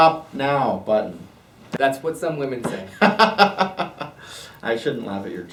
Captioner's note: laughs